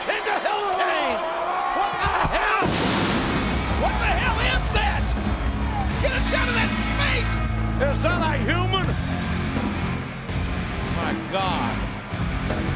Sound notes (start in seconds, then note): 2.6 pyrotechnics burst